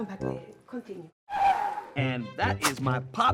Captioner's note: tires screech